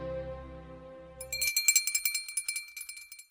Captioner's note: bell ringing